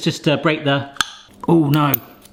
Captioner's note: cap popping